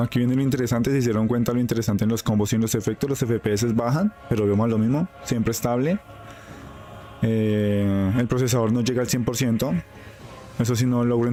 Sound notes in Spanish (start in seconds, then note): none